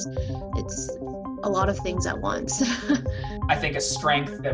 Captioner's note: laughs